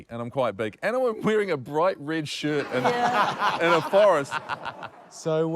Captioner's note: laughter